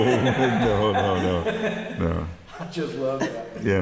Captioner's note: laughing